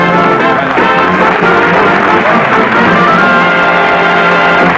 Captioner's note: applause